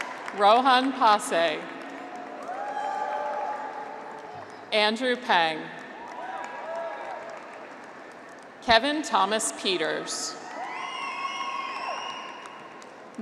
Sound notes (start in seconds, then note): 0.0 graduates cheer; 1.8 graduates cheer; 5.9 graduates cheer; 10.4 graduates cheer